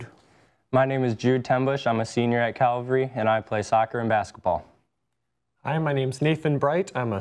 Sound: none

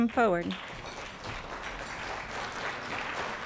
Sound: applause

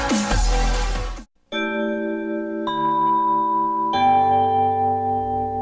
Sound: chime playing

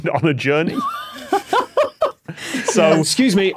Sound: guests giggling

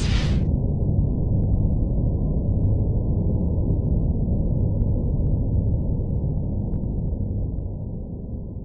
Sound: sounds of space

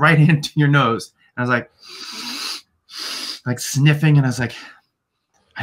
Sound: sniffs

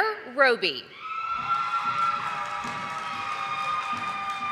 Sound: audience applauding

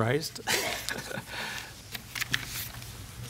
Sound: chuckles

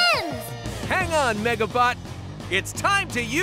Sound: none

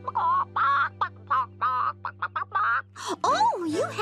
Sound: clucking

